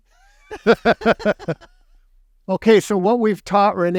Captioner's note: chuckles